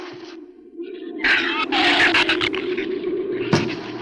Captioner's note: shrew snarls; flames hiss